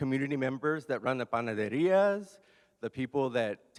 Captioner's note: speaks in Spanish